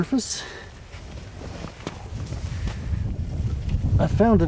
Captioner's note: tapping sounds